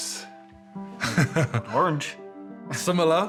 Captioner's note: laughs